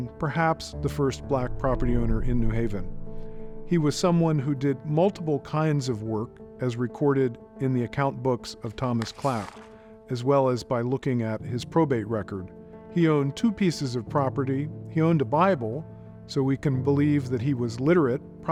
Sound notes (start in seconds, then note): 8.6 page rustling